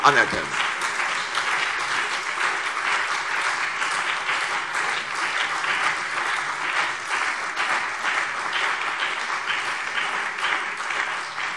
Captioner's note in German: Beifall CDU und BÜNDNIS 90/DIE GRÜNEN